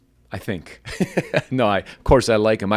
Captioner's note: laughter